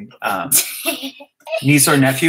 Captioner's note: laugh